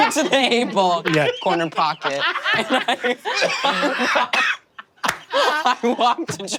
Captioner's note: laughs